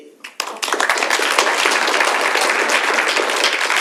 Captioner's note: audience applauds